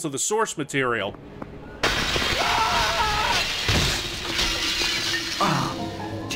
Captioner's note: window crash and male screaming